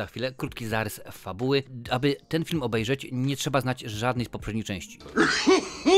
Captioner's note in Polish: śmiech